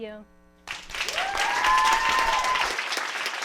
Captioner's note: clapping